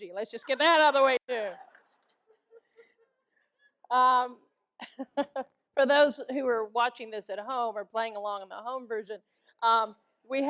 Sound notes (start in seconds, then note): 1.7 audience laughs; 5.0 laughs